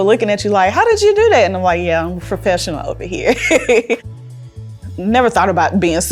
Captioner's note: laughs